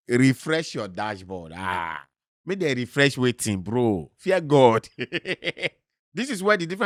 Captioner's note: laughs